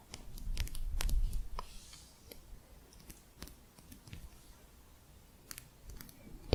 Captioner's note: quiet tapping